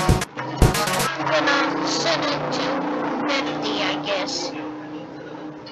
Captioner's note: wind blowing